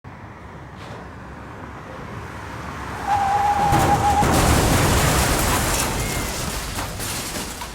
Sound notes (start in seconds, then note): 2.7 brakes squealing; 3.4 loud crashing